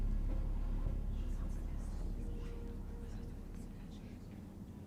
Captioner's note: whispering